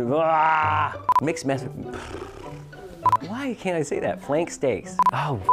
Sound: sighs; beeps; beeps

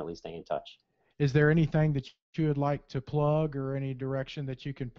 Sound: voiceover

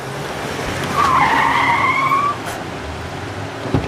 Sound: tyre screeching

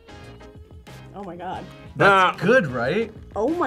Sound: laughs

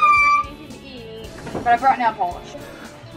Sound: air horn

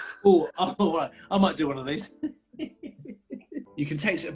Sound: giggling

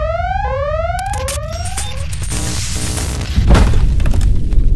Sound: suspenseful music; electronics malfunctioning; crashing

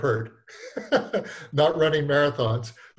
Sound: laughs

